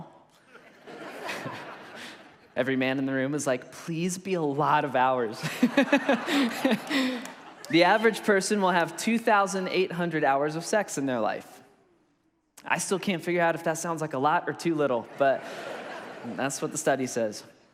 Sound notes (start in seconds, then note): 0.4 congregation laughs; 5.5 laughs; 15.0 congregation laughs